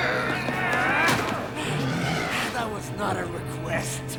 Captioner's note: grunts and groans